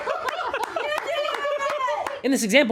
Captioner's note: laughter